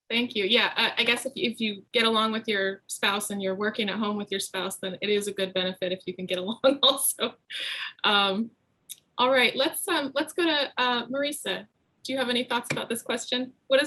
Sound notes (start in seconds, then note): 7.0 laughs